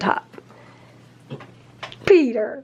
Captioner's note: mimics gagging